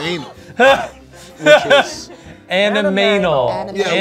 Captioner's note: laughing